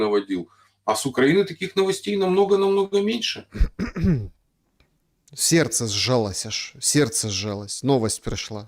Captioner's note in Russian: кашель; откашливается